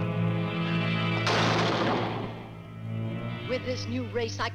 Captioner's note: table slams